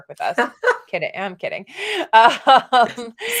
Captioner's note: laughs